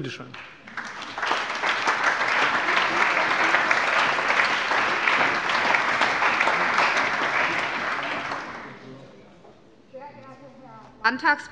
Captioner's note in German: Allgemeiner Beifall